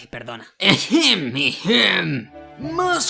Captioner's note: clears throat